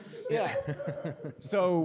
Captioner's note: laughter